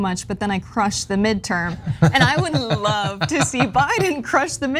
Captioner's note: laugh